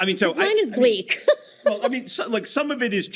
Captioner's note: laughing